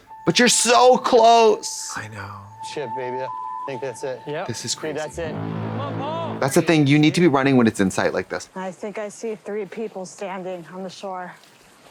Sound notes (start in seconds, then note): 2.4 beep